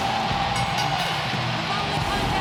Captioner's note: bell rings